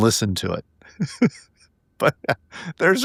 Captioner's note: laughing